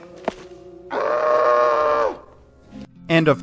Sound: screams

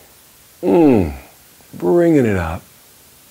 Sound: groan

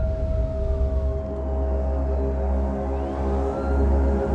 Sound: suspenseful music starts; police sirens

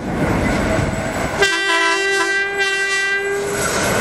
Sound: Loco horns

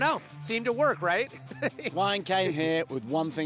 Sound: laughter

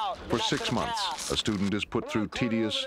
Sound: voiceover

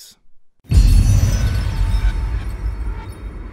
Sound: explosion

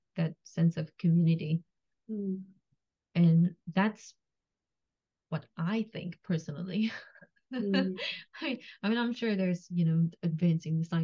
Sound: laughs

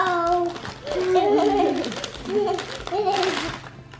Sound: laughs

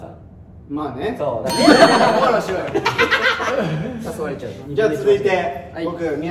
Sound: laughs

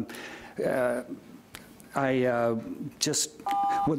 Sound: beep

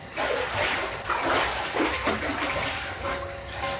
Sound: splashing

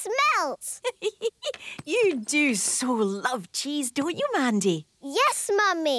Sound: giggling

